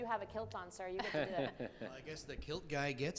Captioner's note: panelists laughs